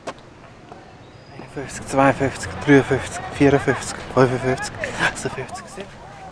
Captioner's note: in Swiss German